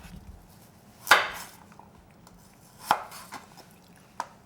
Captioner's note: knife thudding